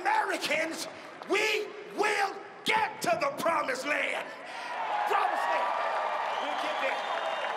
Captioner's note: cheering and applause